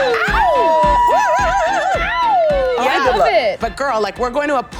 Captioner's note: cat calling and hooting